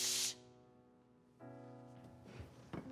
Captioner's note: chair scratching floor